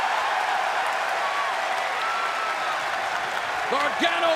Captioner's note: crowd cheering